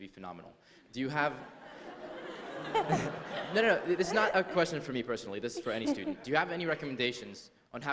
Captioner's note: laughter